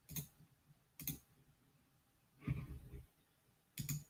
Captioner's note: mouse clicking